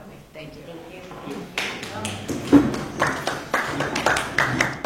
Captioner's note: scattered applause